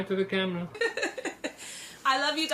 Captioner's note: laughing